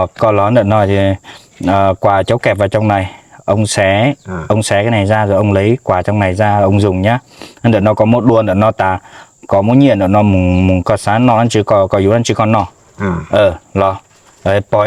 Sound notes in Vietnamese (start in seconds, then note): 9.9 khịt mũi